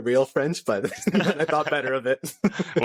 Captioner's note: laughter